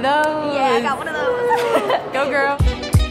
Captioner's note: laughing; upbeat jazzy music